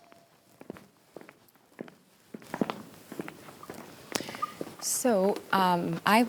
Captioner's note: footsteps tapping